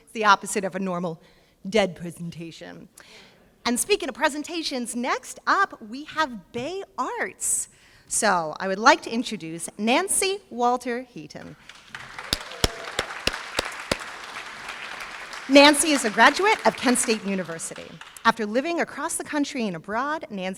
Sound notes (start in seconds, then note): 11.6 applause